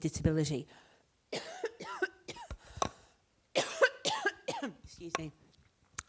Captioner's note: coughs